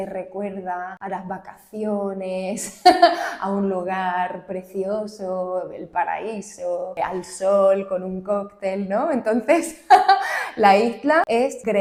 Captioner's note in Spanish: risas